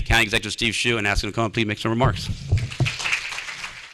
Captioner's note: applause